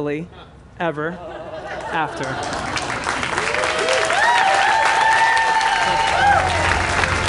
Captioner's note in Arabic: تصفيق